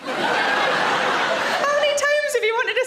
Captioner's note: audience laughs